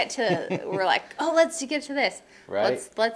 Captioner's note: laughing